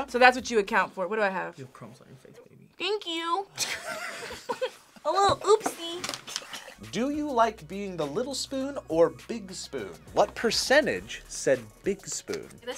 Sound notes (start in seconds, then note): 3.6 snickers; 3.6 both laugh